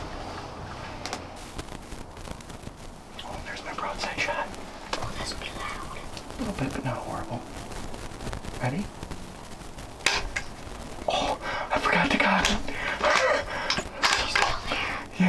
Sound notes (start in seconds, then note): 9.9 gun pops; 12.3 laughs